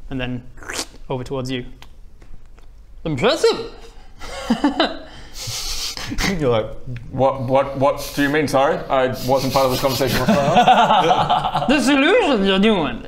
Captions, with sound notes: and then *slurp* over towards you Impressive *chuckle* You're like What...what...what do you mean sorry? I wasn't part of the conversation, what's going on? *awkward giggles* this illusion you're doing